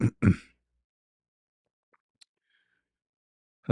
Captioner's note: berdehem